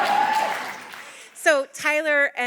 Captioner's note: audience applauding